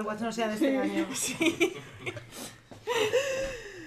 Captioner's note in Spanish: risas